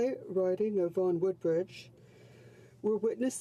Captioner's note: speaking French